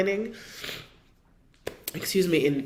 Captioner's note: sniffling